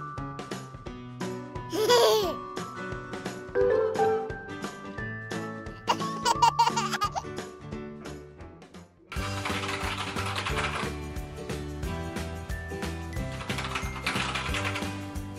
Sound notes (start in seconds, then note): 1.7 baby Laughing; 9.2 keyboard Clacking